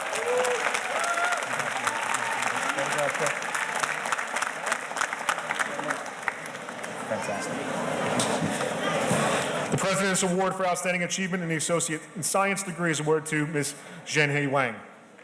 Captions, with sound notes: (audience cheers and applauds) Congratulations (murmurs). Fantastic. The President's Award for outstanding achievement in the associate and science degrees is awarded to Ms. Zhenyi Wang.